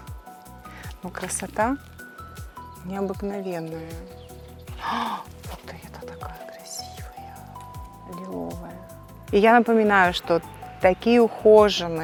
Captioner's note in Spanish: suspira profundamente